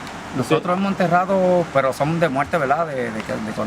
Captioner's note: speaking spanish